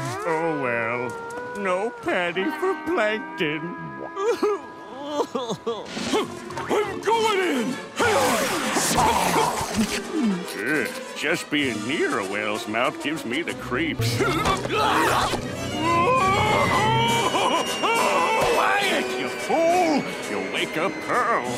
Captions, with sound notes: Oh, well. No patty for Plankton. Huh! I'm going in! Hi-yah! Ugh. Just being near a whale's mouth gives me the creeps. [screaming] Quiet, you fool! You'll wake up Pearl.